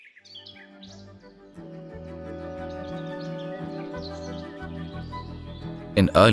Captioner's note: śpiew ptaków, zaczyna się wesoła muzyka